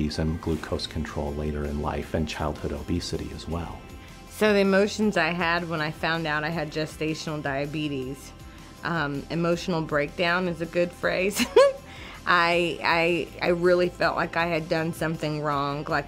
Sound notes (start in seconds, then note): 11.3 laughs